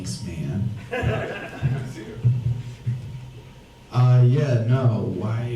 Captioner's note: audience laughs